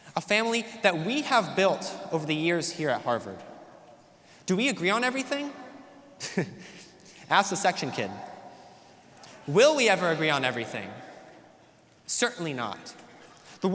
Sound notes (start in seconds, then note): 6.2 chuckles; 8.5 audience laughs